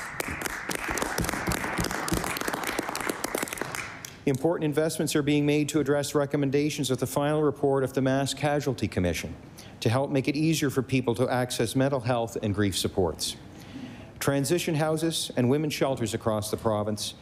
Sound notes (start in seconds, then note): 3.7 applause